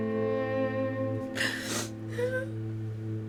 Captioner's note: sobbing